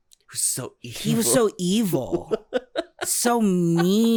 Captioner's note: chuckles